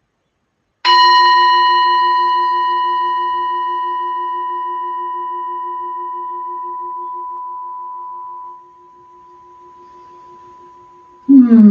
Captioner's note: gong of the singing bowl